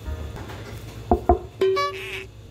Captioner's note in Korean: 똑똑